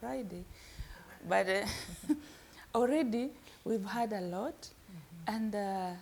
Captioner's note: laughs